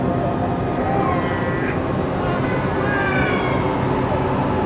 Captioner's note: babies crying